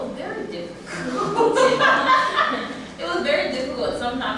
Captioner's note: laughter